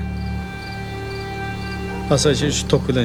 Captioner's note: crickets chirping